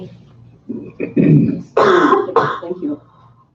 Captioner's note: coughing drowns out speaker